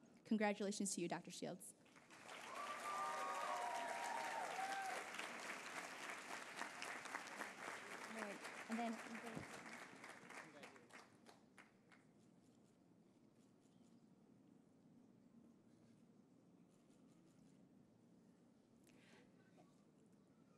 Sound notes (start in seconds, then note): 3.2 applause